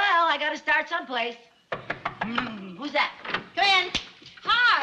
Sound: knocking on door

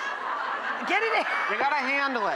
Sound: laughs

